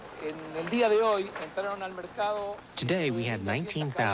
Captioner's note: speaking Spanish